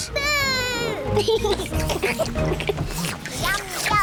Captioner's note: all slurp